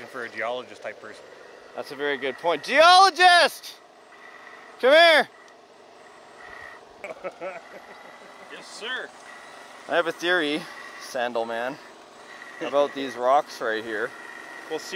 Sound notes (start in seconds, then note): 4.5 shouts; 7.0 crew member laughs